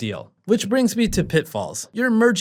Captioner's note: air whooshing